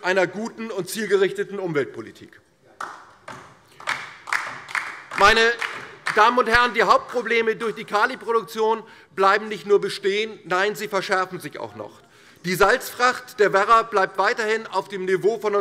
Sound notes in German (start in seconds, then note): 2.8 Beifall DIE LINKE